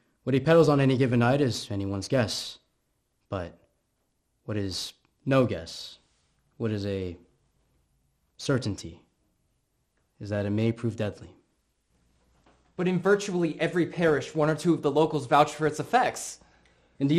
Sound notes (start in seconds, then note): none